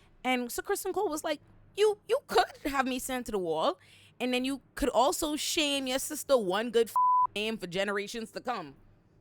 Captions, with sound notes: And Sir Christian Cole was like, you could have me sent to the wall. And then you could also shame your sister one good (beep) for generations to come.